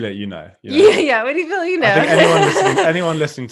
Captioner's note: laughing